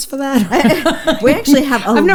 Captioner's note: both laughs